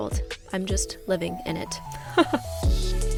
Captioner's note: giggles